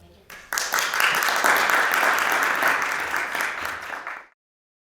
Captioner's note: audience applauds